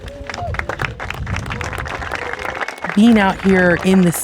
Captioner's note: audience claps